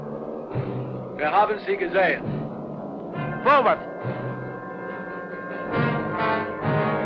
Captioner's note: speaking in a foreign language